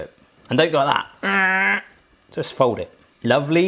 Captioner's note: grunts